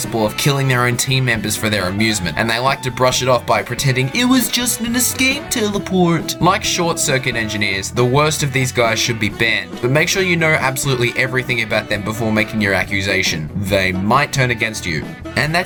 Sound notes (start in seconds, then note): 4.0 derpy voice